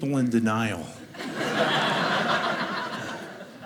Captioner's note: audience laughing